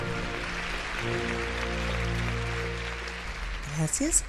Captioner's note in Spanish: Aplausos